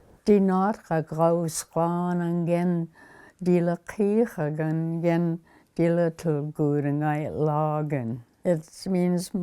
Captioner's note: speaking alternate language